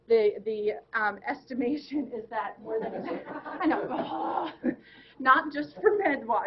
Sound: laughing

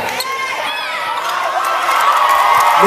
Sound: crowd cheers

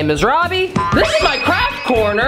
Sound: bounce sound

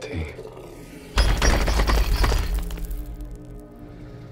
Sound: banging on wall

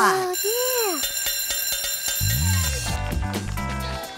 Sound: school bell ringing; upbeat music

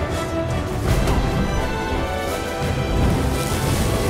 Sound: thunderous boom; flames crackle

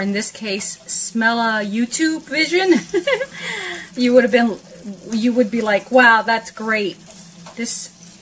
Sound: giggle

